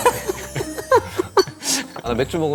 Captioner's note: haha